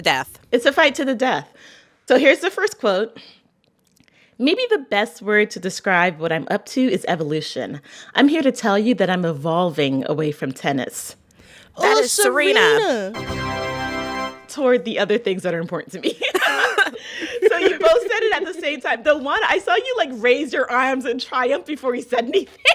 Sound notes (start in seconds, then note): 11.8 soundbite of victory tune; 16.0 laughter